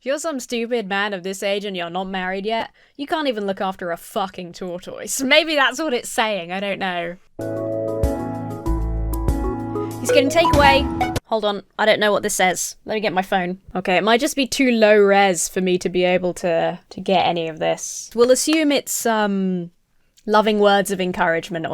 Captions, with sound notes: if you're some stupid man of this age and you're not married yet, you can't even look after a fucking tortoise. Maybe that's what it's saying. I don't know. (uplifting music) He's getting takeaway. (phone notification dings) Hold on. I don't know what this says. Let me get my phone. It might just be too low-res for me to be able to get any of this. We'll assume it's loving words of encouragement or something.